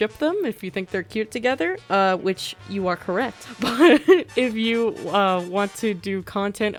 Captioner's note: laughs